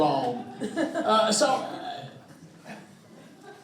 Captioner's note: all chuckling